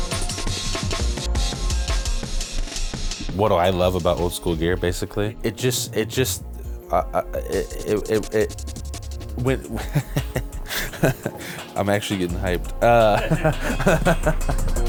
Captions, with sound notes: What I love about old school gear, basically? It just, it just, [stammering] [laughter] I'm actually getting hyped.